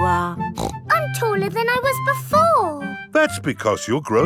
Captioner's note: snorts